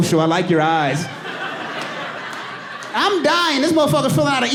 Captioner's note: audience laughing and applauding